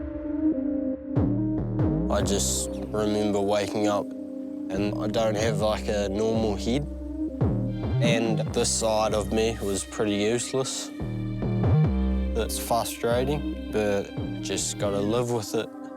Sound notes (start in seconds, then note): none